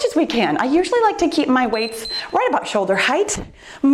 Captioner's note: timer beeps